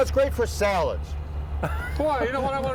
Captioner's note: laughs